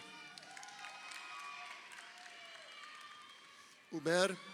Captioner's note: crowd cheering